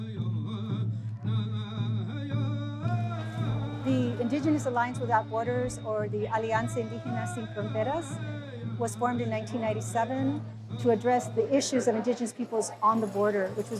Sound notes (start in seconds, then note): 0.3 drumming and singing; 6.6 in foreign language